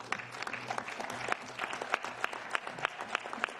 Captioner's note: applause